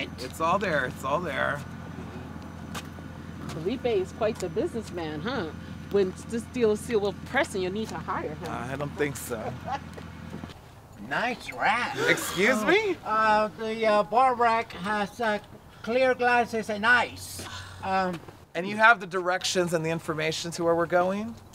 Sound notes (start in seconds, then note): 9.3 laughter; 13.1 gasps